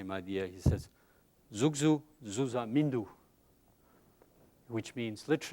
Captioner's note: speaking tibetan